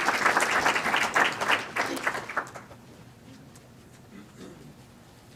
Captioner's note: clapping